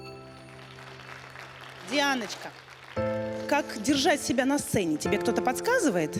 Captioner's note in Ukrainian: оплески